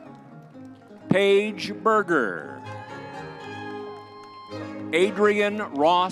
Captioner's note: crowd cheering; crowd cheering